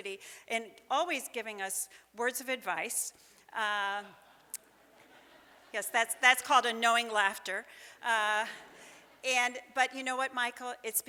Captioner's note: laughter from audience